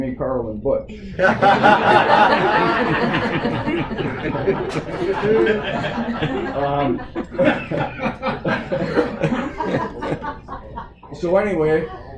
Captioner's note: laughter